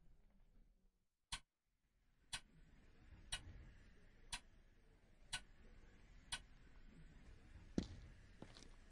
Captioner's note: clock ticking